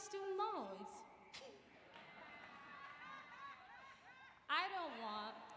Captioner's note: laughter